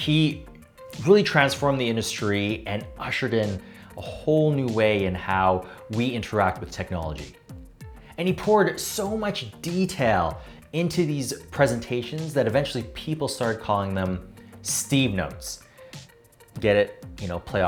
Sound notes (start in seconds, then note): none